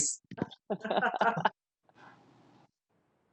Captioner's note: chuckles